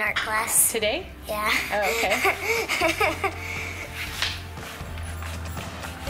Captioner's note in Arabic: يضحك